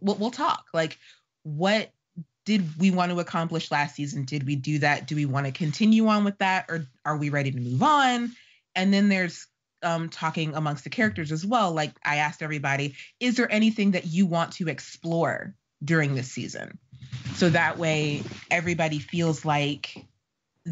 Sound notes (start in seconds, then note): none